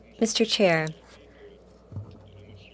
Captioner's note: speaking French